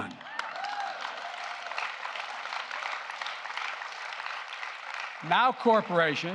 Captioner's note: applause